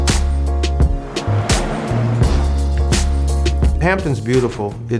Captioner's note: car revs